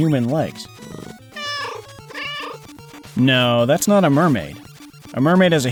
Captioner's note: meow, meow